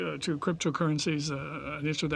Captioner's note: speaking French